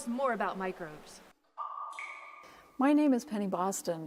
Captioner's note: water drops